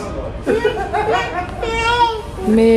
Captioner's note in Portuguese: risos